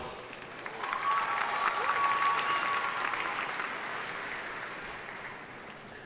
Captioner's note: audience cheering and applauding